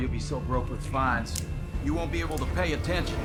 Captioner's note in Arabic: نقرات السكين